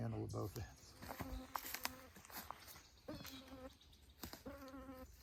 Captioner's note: insects buzzing